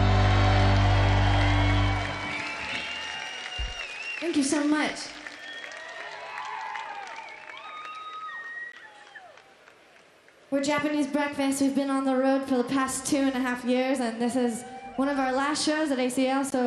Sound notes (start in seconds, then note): 0.1 audience applauding; 0.1 audience cheering; 6.2 audience cheering